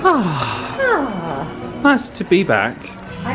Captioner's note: both laugh; both sigh